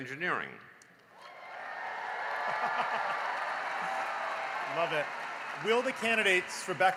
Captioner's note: cheering and applause